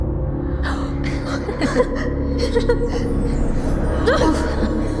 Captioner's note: kids giggling